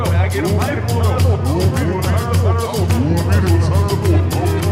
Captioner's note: distortion effects